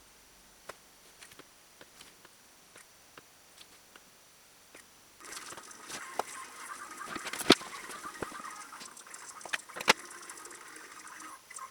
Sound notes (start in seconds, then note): 5.1 drawers close; 8.1 miscellaneous sewing noises & shuffling sound at high speed